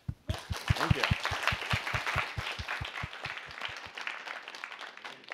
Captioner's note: applause